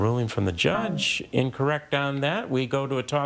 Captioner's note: text buzzing